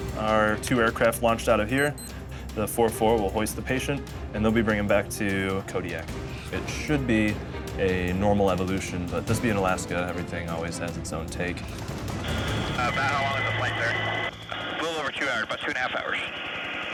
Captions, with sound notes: - Our two air craft launched out of here. The 44 will hoist the patient, and they'll be bring him back to Kodiak. It should be a normal evolution, but this bein' Alaska, everything always has its own take. - [Man Over Radio] About how long is the flight there? - [Person Over Radio] A little over two hours, about two and a half hours.